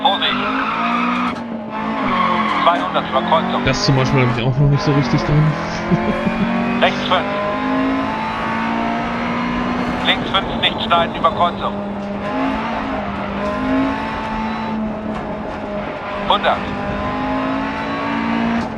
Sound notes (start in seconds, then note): 0.0 engine roaring and tires screeching; 6.2 engine noises and instructions from the co-pilot